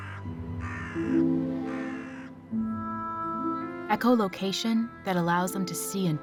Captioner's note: crow cawing